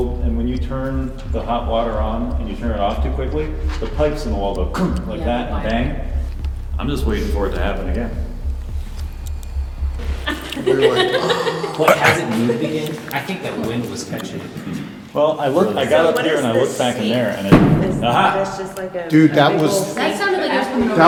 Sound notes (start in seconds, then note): 9.9 laughs; 17.5 bang